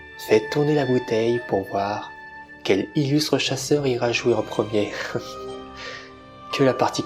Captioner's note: laugh